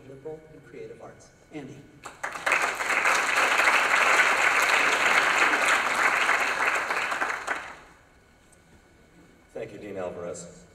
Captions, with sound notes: of liberal and creative arts. Andy. [ Applause ] >> Thank you, Dean Alvarez.